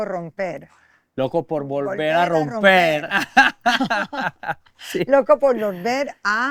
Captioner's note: laughter